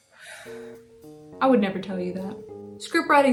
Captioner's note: gasps for breath